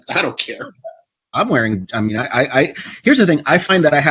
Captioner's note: stammers